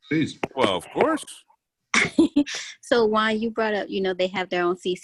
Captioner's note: laughter